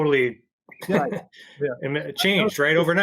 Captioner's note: laughs